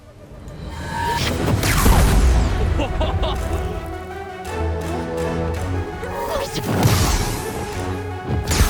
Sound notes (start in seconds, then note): 1.1 sharp zapping; 2.5 laughs; 6.3 multiple zapping